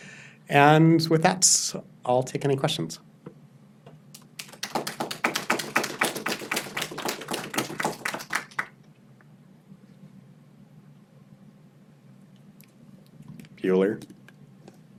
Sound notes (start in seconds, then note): 4.1 audience applauds